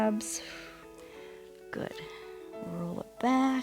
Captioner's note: exhales